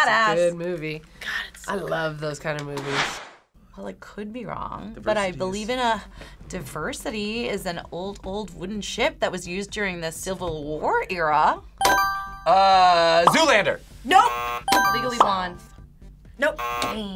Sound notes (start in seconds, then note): 14.1 buzzer; 14.1 buzzer rings